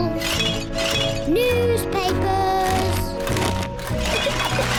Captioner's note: bottles clink; newspapers thud; giggles